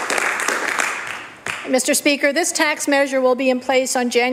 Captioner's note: applause